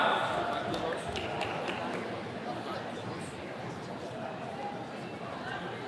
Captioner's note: attendee clapping